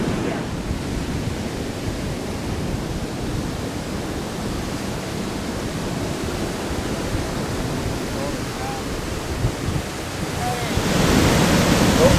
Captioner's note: waves crashing on the beach